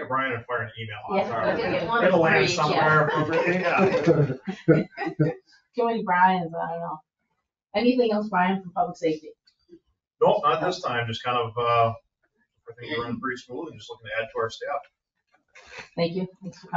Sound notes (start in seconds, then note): 1.6 all laughing and chattering; 4.3 all laughing